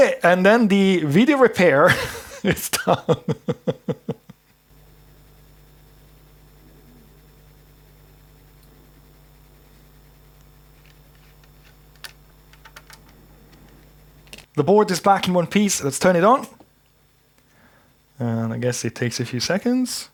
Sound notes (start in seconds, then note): 4.5 keyboard clicking; 4.5 laughing